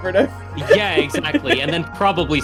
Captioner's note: laughs